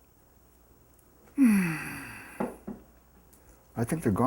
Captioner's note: sighs